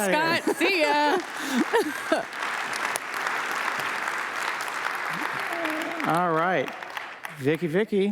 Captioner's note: applause